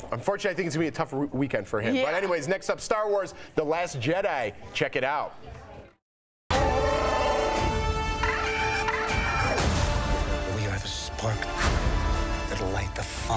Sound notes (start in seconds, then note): 2.7 mooing